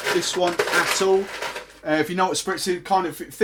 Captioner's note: ice rattling